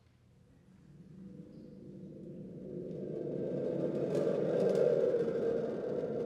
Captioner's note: thunder tube rumbling